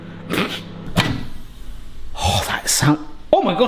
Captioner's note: sizzling